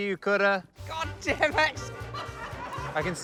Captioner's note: chuckles